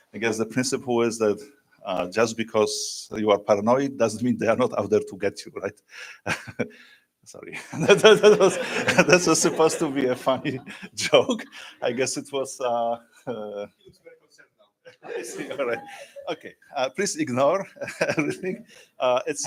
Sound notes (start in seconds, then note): 7.5 laughter; 7.6 laughs; 14.8 laughter